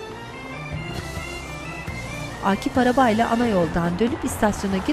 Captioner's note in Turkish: Araba sesi